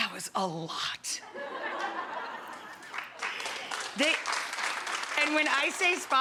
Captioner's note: audience laughing and applauding